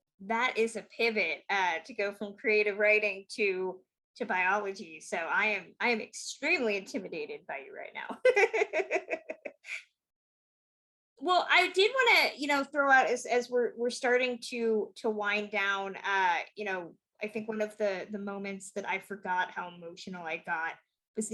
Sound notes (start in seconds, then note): 8.3 laughs